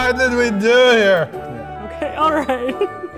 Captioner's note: laughs some more